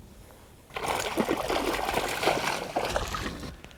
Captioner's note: splash